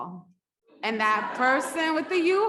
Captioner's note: audience laughs